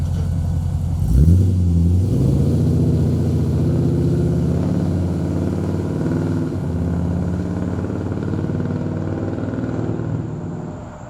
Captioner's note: sweet V8 sounds